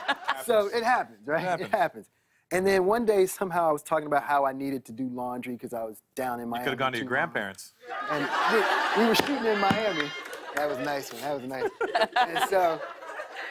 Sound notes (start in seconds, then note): 11.0 laughter